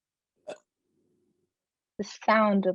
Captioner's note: Thing burps